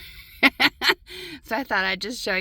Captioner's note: laughing